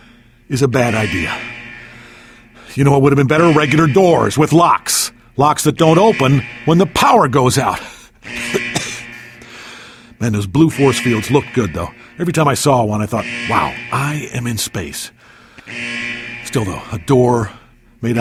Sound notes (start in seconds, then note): 8.3 cough cough